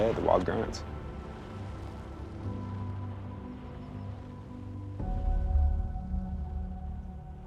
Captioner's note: birds chirping; gentle music